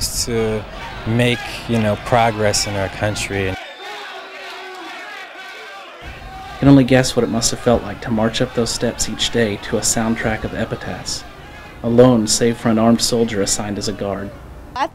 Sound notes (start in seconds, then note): 4.2 shouting